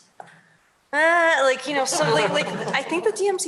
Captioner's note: laughter